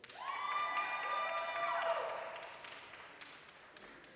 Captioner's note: applause, cheering